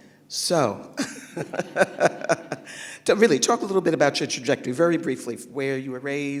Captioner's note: laughs